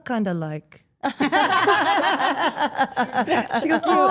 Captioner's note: all laughing